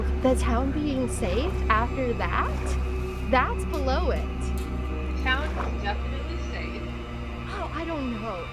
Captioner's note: stompy